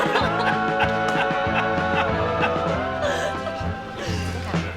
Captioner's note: laughter